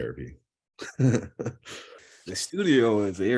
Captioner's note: chuckle